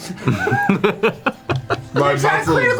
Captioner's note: laughs